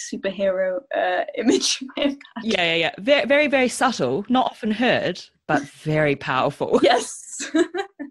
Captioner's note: laughs